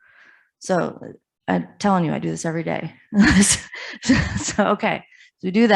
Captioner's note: laughs